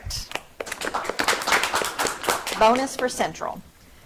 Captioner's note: audience clapping